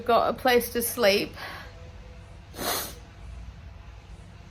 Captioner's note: voice breaks with tears, sniffs